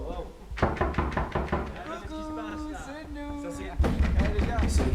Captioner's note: knocking on stall door; speaking in foreign language; banging on stall door